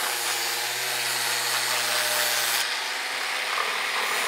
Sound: screeching sawing noise

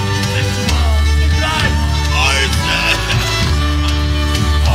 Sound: coughs

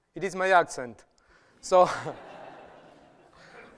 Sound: laughter

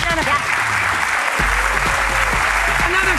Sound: applause

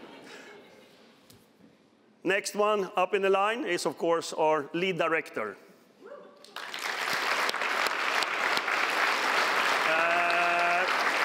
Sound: applause

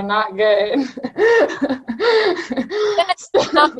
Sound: laughing

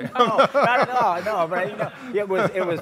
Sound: laughs

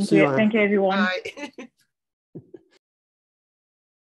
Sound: chuckles

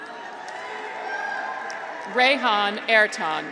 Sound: graduates cheer

